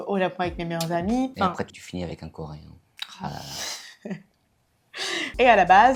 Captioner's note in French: rires